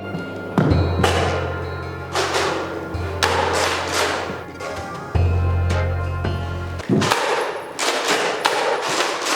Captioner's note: shots get fired